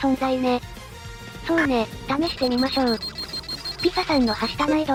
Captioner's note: beep beep beep